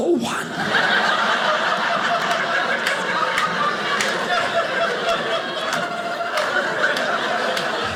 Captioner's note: audience laughing